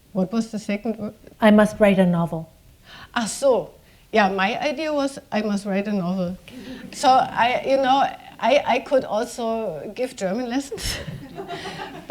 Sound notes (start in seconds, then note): 3.0 speaking german